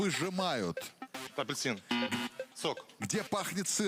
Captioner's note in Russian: пи-пи